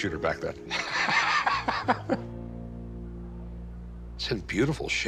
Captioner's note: laughter